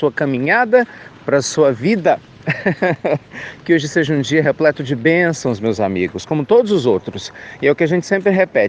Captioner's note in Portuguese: risos